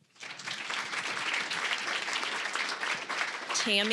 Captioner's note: applause